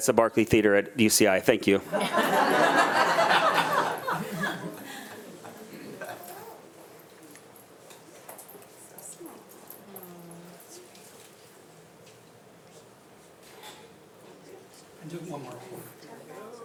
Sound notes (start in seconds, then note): 1.8 attendees laughing